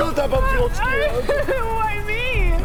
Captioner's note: cries